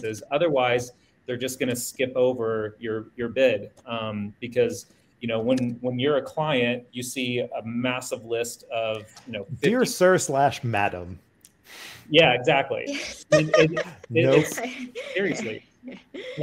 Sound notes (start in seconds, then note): 12.8 laughs